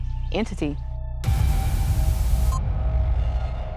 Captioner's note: ominous music; transition hissing; transition bleeping